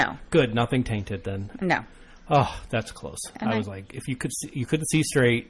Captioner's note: sighs